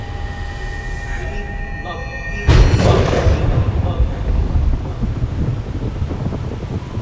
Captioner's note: echoing